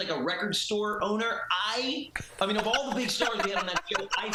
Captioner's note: laughter